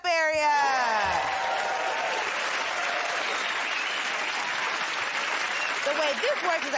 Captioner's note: cheers and applause